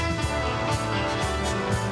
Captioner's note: none